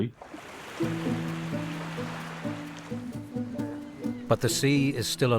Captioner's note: waves rolling; light music continues